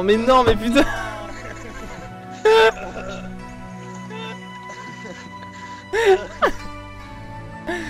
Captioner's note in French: rires